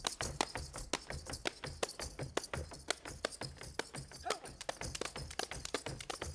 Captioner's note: feet stomping and hands clapping